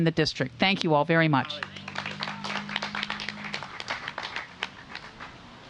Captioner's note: applause